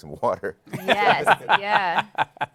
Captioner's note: laughs